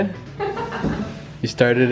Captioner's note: laughs